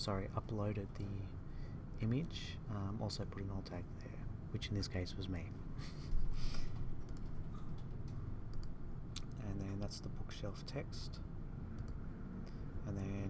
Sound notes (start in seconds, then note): 5.8 chuckles